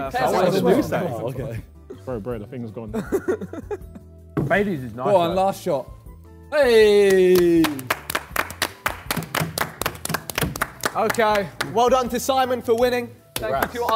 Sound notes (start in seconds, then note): 3.0 laughs; 6.9 men clap